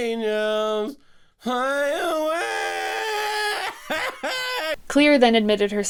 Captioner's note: laughter